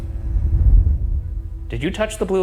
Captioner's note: scene change whooshing